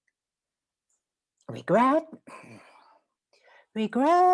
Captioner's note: gloria sighs